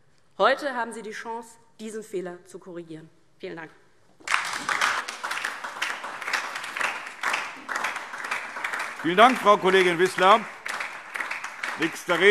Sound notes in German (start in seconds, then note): 4.2 Beifall DIE LINKE und SPD